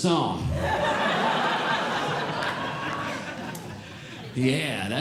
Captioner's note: audience Laughing